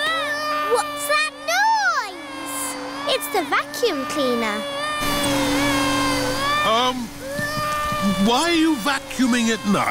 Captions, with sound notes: -(VACUUM CLEANER WHIRRING) -What's that noise? It's the vacuum cleaner. (CRYING) Erm, why are you vacuuming at night?